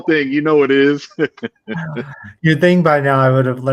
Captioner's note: laughing